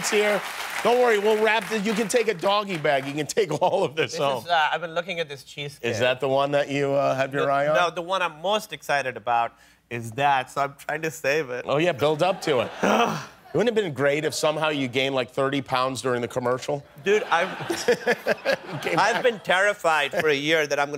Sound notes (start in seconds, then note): 17.0 laughter